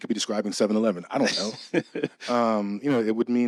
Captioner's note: laughing